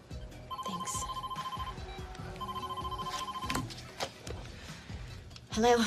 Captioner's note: telephone ringing